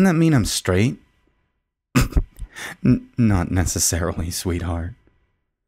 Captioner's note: laughs